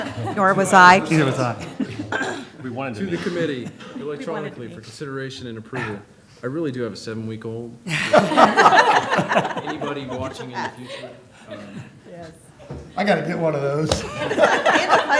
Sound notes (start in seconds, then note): 7.8 laughter